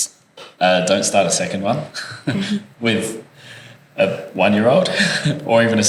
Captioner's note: laugh